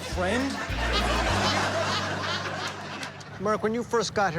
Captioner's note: laughter